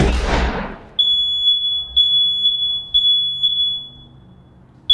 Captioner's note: alarm starts to blare shrilly and incessantly